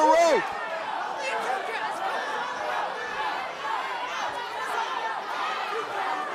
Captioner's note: fans chanting